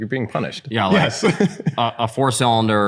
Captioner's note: laughter